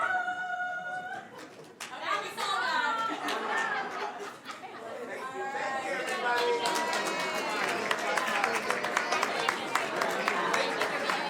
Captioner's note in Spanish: aplausos